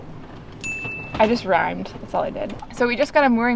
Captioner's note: bell dings